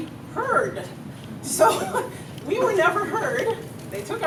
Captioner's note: exasperated laugh